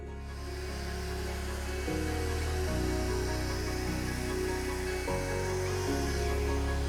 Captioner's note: gentle bright music; blower buzzing